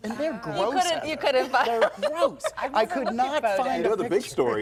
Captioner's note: laughter